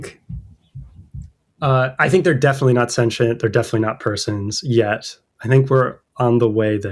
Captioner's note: uh